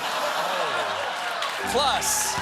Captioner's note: laughter; cheers and applause